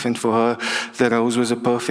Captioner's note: none